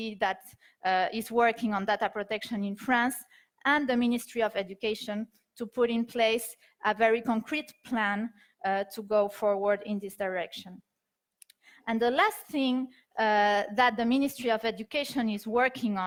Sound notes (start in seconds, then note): none